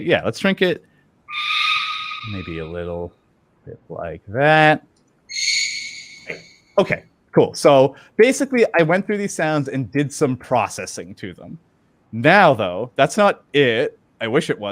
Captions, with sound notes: yeah, let's shrink it. [quick high pitch squeak] Maybe a little bit like that. [quick higher pitched squeak] Okay, cool. So basically, I went through these sounds and did some processing to them. Now, though, that's not it. I wish it